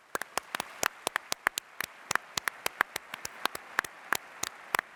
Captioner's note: applause